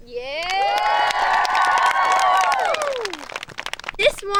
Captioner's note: campers applauding